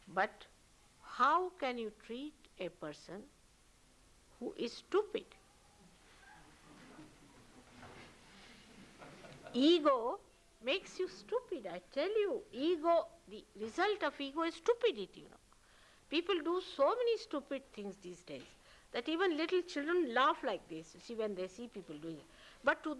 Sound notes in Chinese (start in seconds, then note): 8.9 笑聲